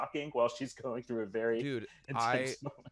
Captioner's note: chuckles